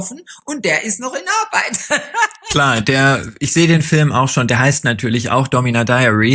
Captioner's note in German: gelächter